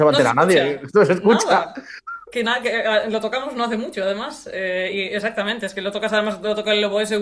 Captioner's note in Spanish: risas